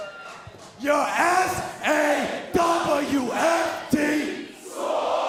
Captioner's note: fans chanting